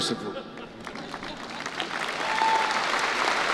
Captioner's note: applause